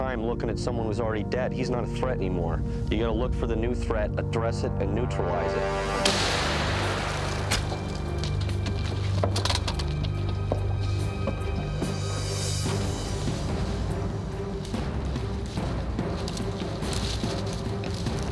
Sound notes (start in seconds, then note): 6.0 gun fires; 7.9 thrilling music